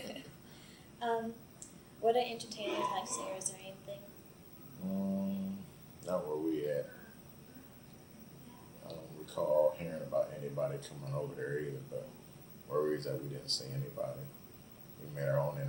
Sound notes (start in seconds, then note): 0.1 both laugh; 2.6 coughing in the background